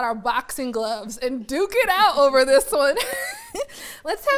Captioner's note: chuckles